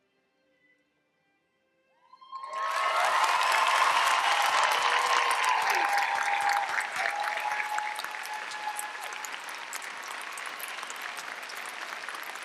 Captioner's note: applause